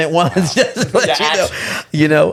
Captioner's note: laughs